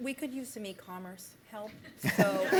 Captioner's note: laughter